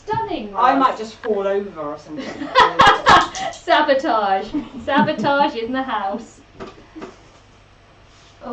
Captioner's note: laughs